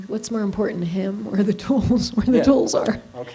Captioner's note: laughing